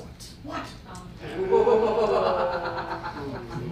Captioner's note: spooky laughter